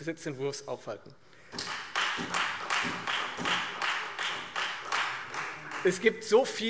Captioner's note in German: Beifall Freie Demokraten und SPD